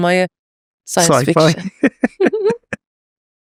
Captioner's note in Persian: خنده